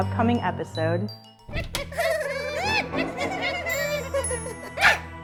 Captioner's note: creepy giggling